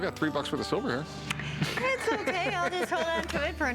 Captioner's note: Rick laughs